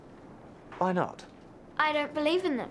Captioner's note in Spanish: none